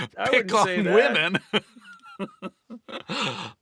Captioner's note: both laughing